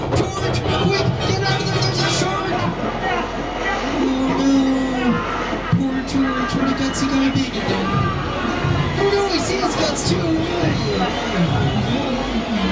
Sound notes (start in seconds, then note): 5.1 screaming